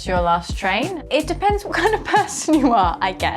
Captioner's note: chuckling